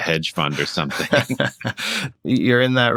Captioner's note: laughter